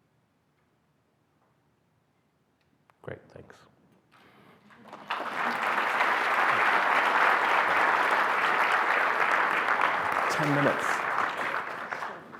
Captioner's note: applause